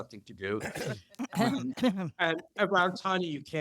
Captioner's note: throat-clearing